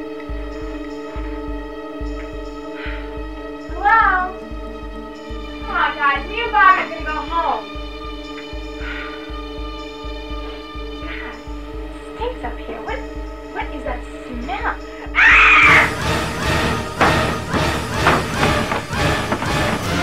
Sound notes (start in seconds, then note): 8.8 sighs; 15.1 screams; 16.7 intense music